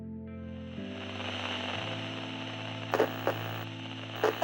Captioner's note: static on old television